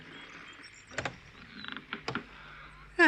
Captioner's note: window creaks open; sighs deeply